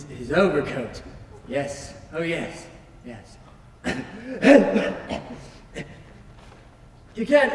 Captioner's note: coughs